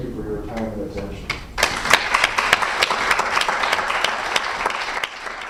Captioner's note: applause